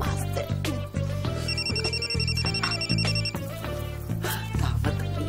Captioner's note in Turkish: Telefon çalıyor